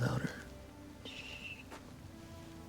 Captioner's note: shushing